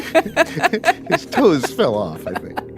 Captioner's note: laughs